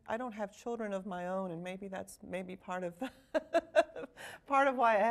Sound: laughing

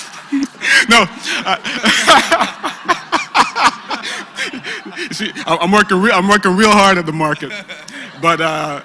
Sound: laugh

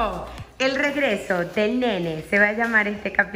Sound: imitating movie trailer voice

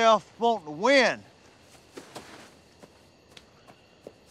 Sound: crickets chirping

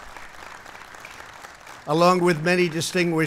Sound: applause

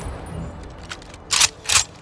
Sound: gunfire

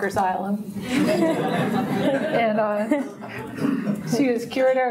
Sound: everyone laughs

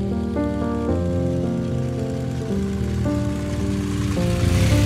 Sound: motorcycle engine roaring

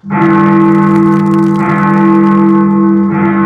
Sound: bell tolling

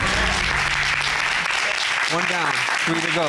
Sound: applause

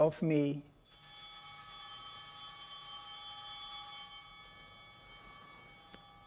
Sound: bell ringing

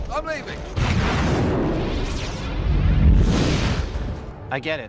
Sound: Christmas Pterodactyl explodes

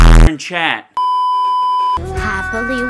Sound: beeeeeep

